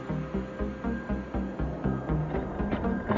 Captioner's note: wind blowing